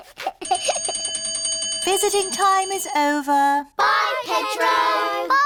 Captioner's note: giggles; bell rings